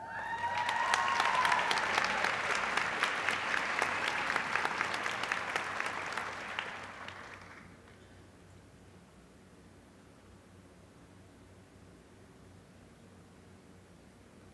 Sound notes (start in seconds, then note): 0.1 applause